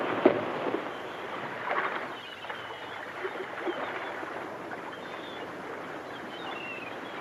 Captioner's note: seagulls caw; water laps